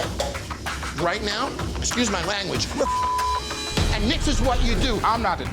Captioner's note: beep